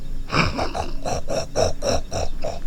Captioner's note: imitating pig noise